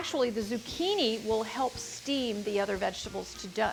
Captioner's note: food sizzling